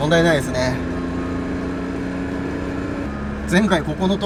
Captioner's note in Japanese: エンジン音